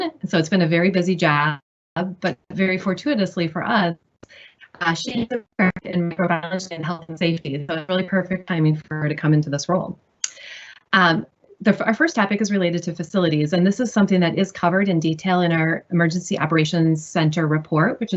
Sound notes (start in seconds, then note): 4.8 audio static buzzes